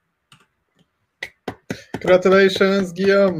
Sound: clapping

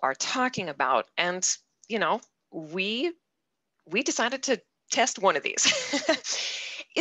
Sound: laughs

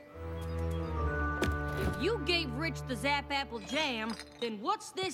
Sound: glass jars rattle

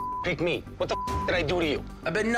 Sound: beep

